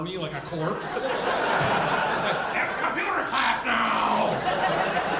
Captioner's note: audience laughing